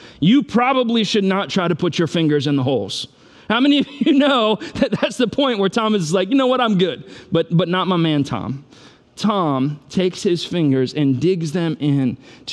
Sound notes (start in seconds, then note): 3.9 laughs